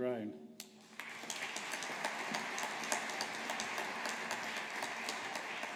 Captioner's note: audience applauding